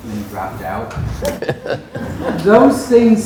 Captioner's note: students laugh